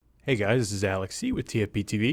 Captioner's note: voiceover